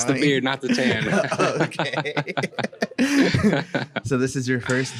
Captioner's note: laughs